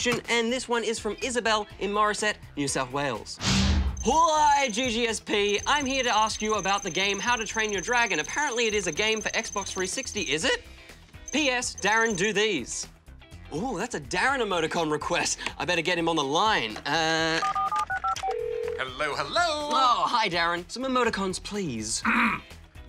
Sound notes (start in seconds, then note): 17.1 buttons beep, line rings; 22.0 clears throat